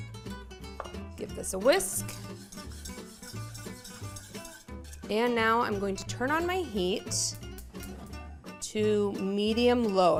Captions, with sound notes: Give this a whisk. (whisk swishing) And now I'm going to turn on my heat to medium low.